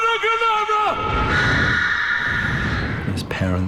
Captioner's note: lily screams